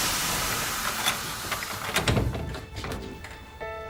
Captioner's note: key turns in lock